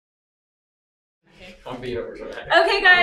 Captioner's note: children talking in the background